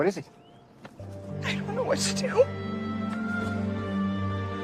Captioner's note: crying